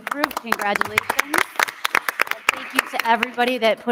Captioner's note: crowd clapping